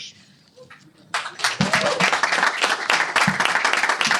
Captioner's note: cheers and applause